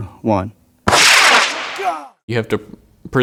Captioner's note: rockets launching